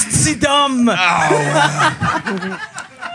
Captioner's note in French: rires